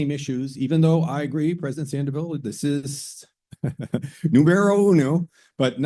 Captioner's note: laugh